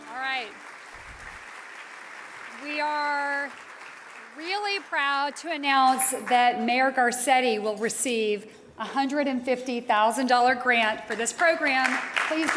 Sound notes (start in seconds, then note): 0.0 audience applauding